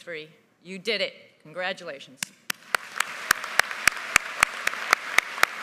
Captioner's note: all applauding